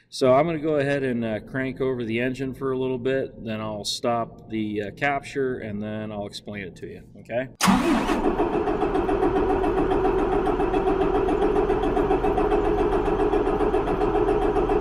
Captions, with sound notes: So I'm gonna go ahead and crank over the engine for a little bit, then I'll stop the capture and then I'll explain it to you. Okay? (engine turns over)